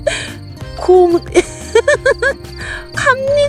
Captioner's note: laughing